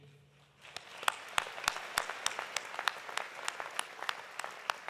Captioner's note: audience applauding